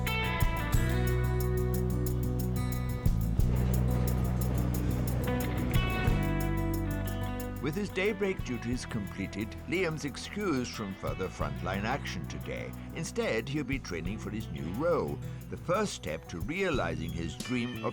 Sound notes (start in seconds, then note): 3.3 train rumbling